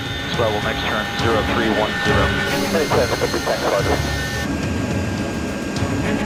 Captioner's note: military chatter